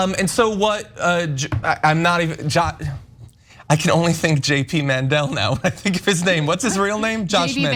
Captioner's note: laugh